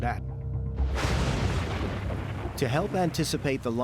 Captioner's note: thunder rumbling